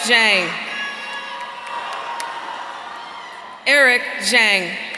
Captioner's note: audience cheering